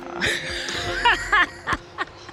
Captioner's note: laughs